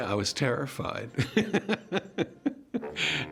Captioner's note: chuckles